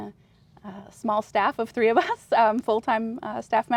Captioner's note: laughs